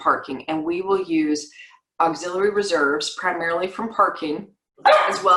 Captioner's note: dog bark